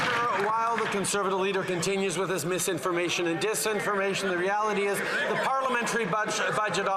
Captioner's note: some Applause